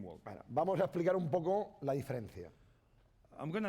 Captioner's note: speaking spanish